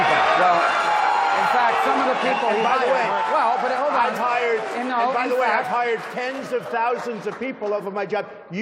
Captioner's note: applause